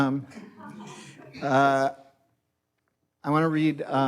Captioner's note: audience laughs